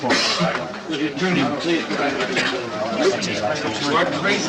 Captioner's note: crowd chatting